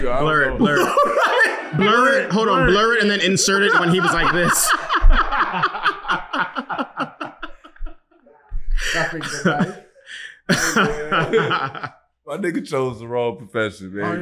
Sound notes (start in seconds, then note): 1.3 laughing; 4.6 laughing